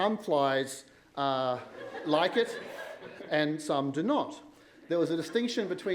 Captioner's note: laughter